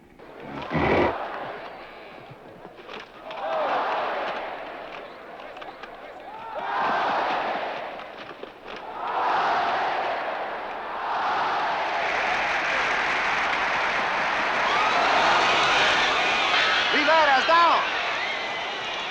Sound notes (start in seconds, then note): 14.9 spectators scream